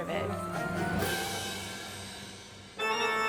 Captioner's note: people chattering; spooky music